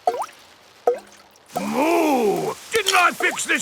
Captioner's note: water dripping